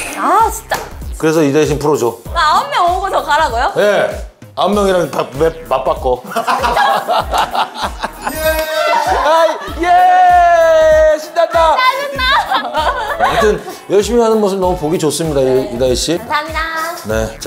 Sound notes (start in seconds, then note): 6.2 hahahaha